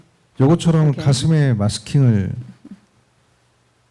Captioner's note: speaking korean